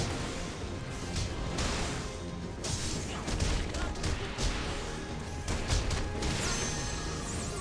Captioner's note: gunshots